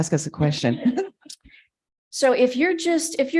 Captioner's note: chuckling